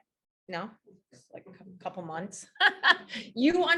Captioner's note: laughs